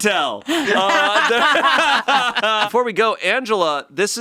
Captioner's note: all laughing